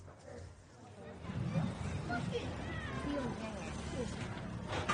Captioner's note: street rumbling